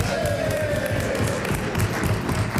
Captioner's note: some Applause